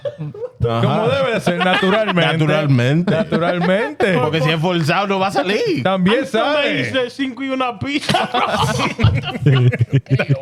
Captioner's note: laughing; speaking In Foreign Language